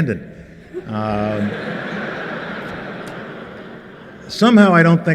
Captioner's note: laughter